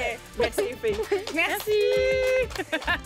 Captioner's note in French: applaudissements